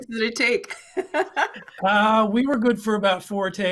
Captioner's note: laughing